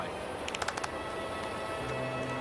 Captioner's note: clapping